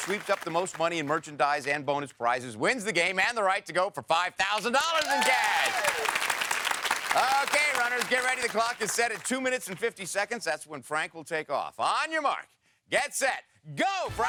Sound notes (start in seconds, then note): 4.6 audience cheers